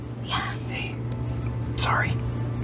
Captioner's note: whispers